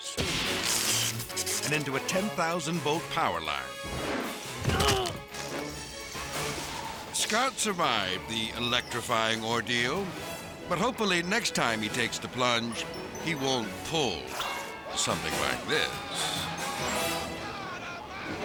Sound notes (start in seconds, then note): 0.1 electricity buzzing; 4.6 thudding; 15.9 yelling